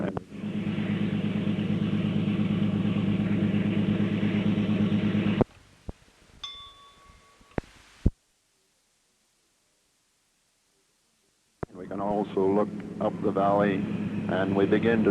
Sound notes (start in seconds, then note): 0.1 sound of train moving; 6.4 bell Sound